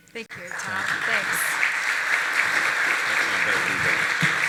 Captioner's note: audience applauding